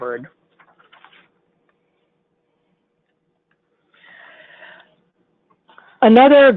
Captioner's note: silence